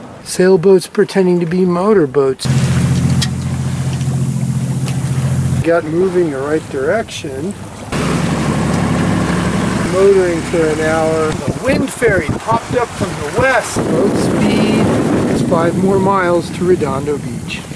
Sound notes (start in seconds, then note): 3.1 boat engines